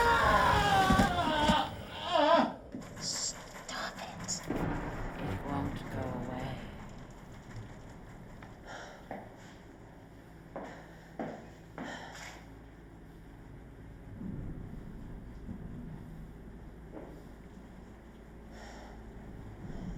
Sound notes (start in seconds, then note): 3.9 thunder rumbling; 8.2 tense music